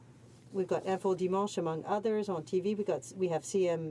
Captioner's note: speaking in french; speaking in french